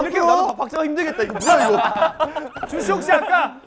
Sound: quick steps

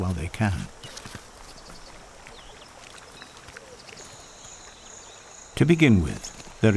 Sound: birds chirping

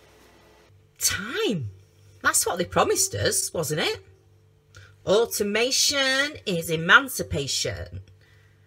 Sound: american accent

